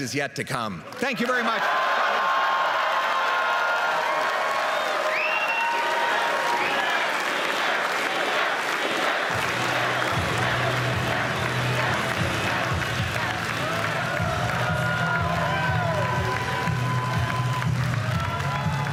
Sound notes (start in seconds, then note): 5.4 applause and cheering